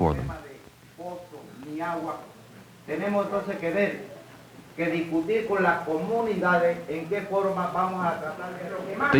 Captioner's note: non-English speech